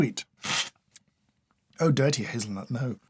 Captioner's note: slurp